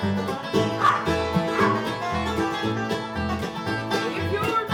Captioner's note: dog barks